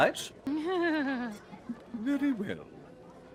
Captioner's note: Calla laughs; Pegasi laughs